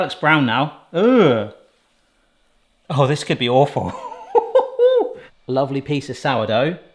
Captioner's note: laughs